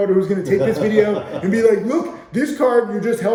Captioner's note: laughing